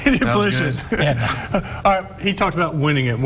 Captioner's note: laughing